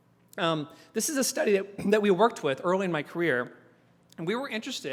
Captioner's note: cough